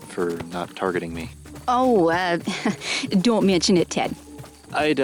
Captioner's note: light chuckle